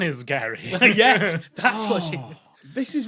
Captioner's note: groans